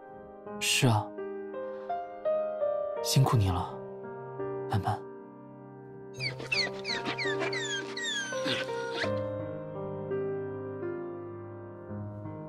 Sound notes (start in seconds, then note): 6.2 whine